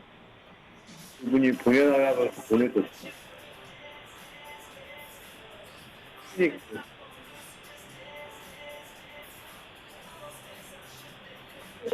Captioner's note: conversation in a language other than english